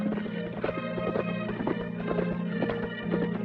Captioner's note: horses trotting